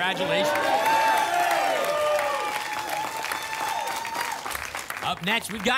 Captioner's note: applause and cheering